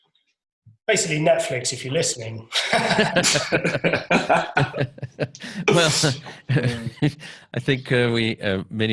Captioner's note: laughter